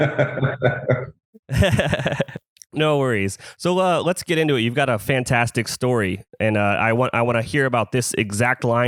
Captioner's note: laughs